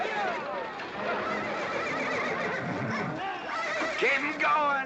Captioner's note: horse neighing